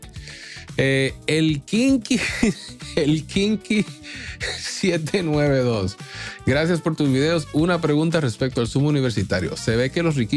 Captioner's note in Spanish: risas